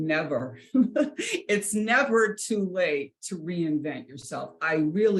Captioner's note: chuckles